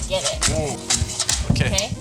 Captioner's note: bowl clattering